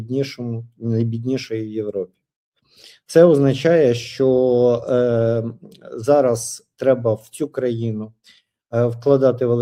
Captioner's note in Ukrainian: сопіння